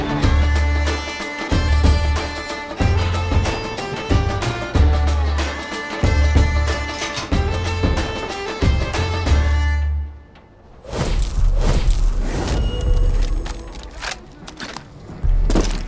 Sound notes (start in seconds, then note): none